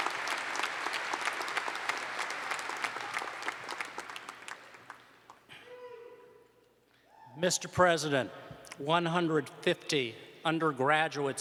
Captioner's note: applause